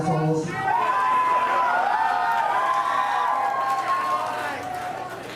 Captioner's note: audience cheering